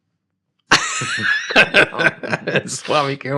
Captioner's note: laughing